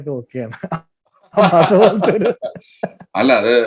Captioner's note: both laughs